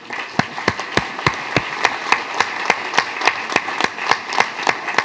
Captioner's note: applause